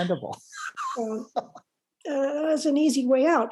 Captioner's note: laughs